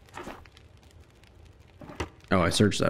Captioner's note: drawer Opens